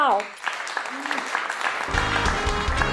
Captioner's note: applause